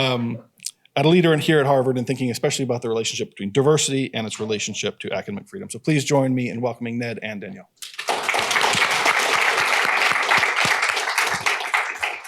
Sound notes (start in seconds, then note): 7.8 applause